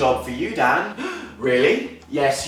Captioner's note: gasps excitedly